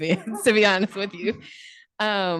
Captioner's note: laughter